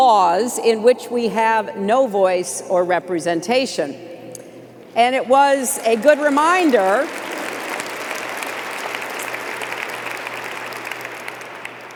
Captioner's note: applause